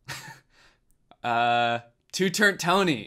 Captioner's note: laughs